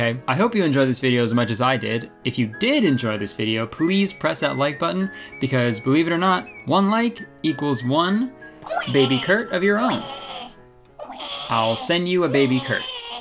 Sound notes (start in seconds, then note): 10.9 baby cries